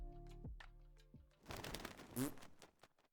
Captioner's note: flapping sound, and a little fart